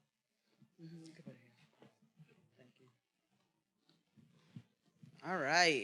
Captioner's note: speaks faintly